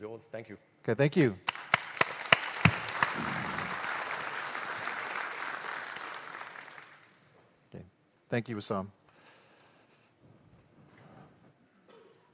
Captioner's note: applause